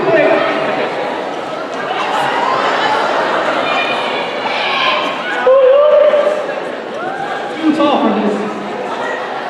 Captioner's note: indistinct chatter